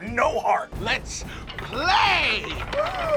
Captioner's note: shouting; gasps